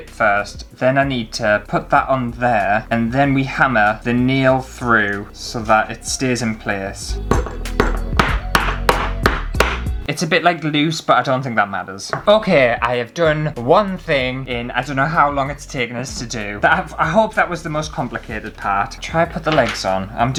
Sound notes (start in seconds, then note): 7.2 hammering